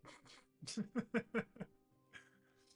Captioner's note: laughs